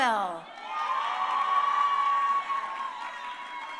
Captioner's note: crowd cheering